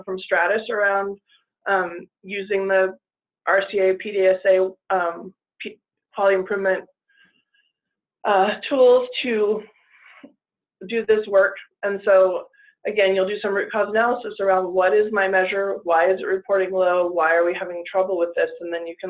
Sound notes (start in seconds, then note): none